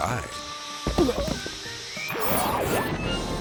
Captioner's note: rider grunting; intense music; logo whooshes